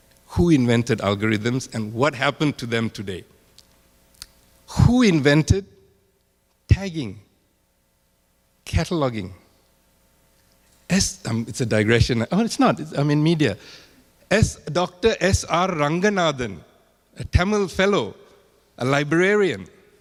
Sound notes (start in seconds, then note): none